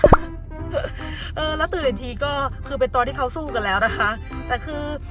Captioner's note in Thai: หัวเราะ